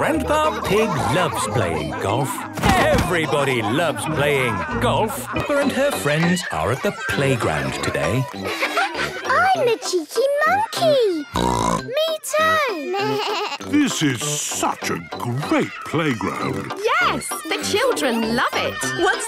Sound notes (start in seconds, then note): 0.0 laughing; 11.3 bleating; 11.3 snorts